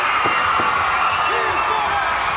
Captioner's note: crowd cheers